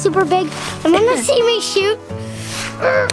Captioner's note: groans